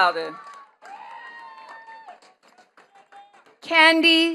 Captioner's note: attendees cheering and clapping